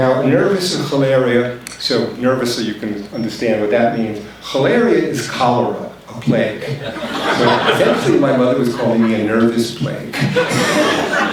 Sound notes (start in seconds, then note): 0.7 foreign language spoken; 4.9 foreign language spoken